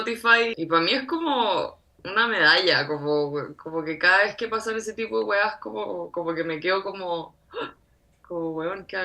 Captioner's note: surprised